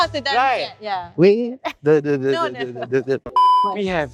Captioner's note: dance noises